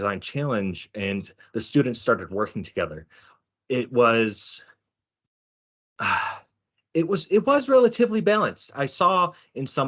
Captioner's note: sighing